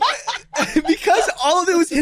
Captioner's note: group laughs loudly